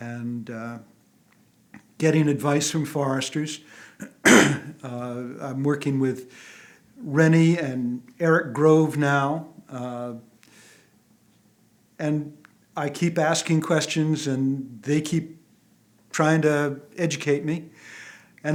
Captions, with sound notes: And getting advice from foresters, (clears throat) I'm working with Rene and Erik Grove now. And I keep asking questions, and they keep trying to educate me.